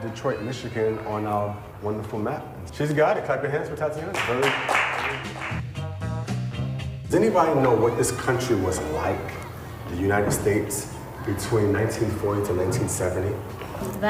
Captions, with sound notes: Detroit, Michigan on our wonderful map? She's got it, clap your hands for Tatiana. (clapping hands) Very good. Does anybody know what this country was like, the United States between 1940 to 1970?